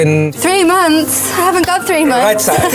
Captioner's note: laughs